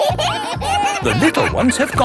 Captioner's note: kids giggling